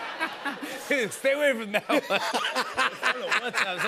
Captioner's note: laughs